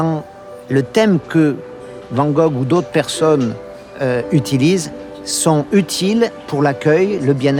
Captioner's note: speaking in foreign language continues